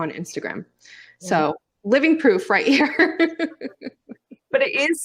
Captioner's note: laughs